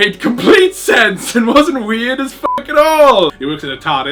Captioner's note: beep